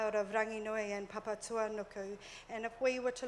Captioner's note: murmurs